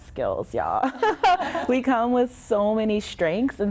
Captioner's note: laughs